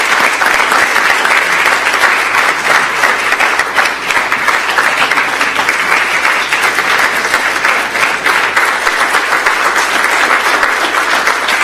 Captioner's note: applause